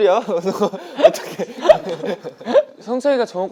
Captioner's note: laughing